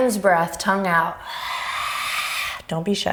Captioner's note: exhaling